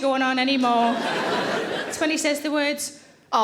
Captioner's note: audience laughing